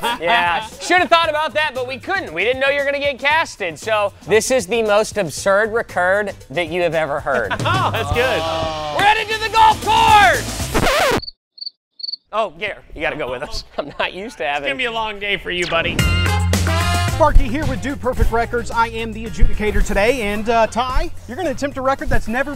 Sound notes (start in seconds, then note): 10.6 record scratch; 12.0 crickets